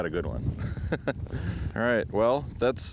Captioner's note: laughs